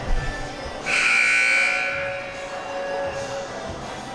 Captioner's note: buzzer ringing